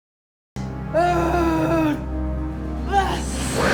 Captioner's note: Faye screaming; snake hissing